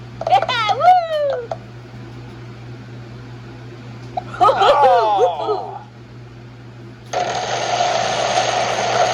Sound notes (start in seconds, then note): 0.4 Maria cheers; 4.4 Maria cheers; 4.5 Martin and Tomoko groan